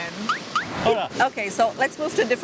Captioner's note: in Spanish